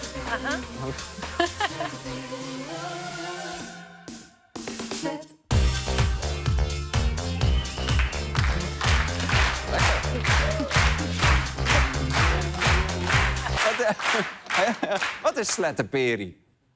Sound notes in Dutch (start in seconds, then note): 7.4 publiek klapt mee op de beat; 13.4 muziek stopt